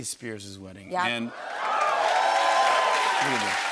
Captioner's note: cheers and applause